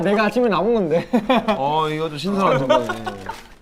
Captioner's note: haha